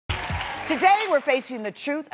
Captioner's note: audience cheers